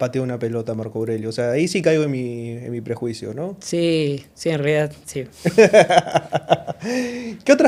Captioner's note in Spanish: risas